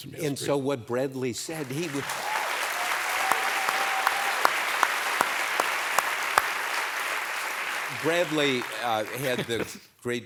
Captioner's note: applause